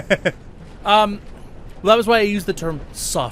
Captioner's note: laughs